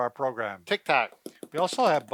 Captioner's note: taps